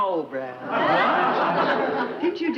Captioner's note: audience laughs